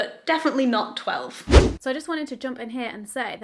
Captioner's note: video swooshes